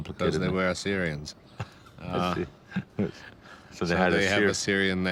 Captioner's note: laughs